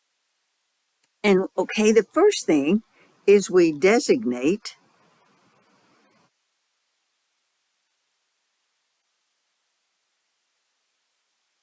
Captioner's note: 8-second silence